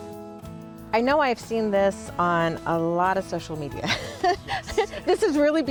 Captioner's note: laughs